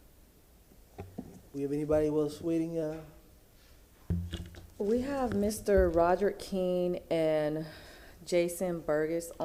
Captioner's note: ~audio distortion~